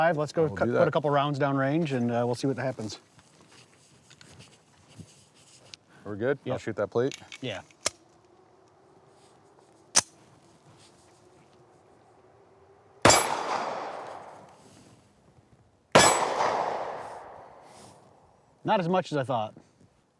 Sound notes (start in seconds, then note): 7.1 gun clicking; 12.9 gun bangs